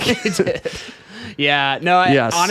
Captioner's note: laughing